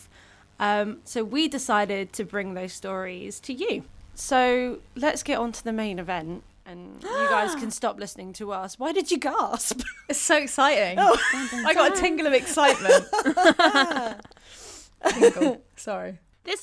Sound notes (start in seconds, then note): 7.0 gasps; 12.4 laughter